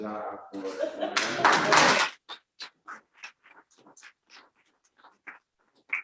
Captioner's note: applause